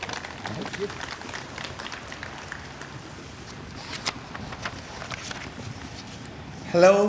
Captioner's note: applause